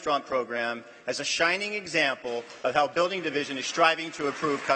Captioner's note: applause